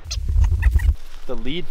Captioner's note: audio fast-forwarding